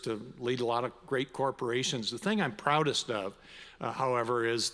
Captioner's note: none